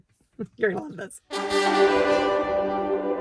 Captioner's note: laughing; triumphant music